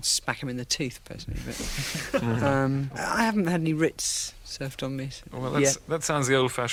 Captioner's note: laughter